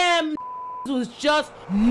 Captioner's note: beep